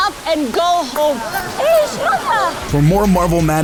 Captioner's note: group chatters